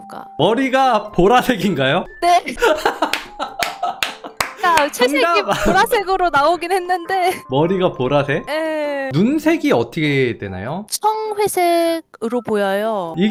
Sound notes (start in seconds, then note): 2.5 laughing; 4.6 voiceover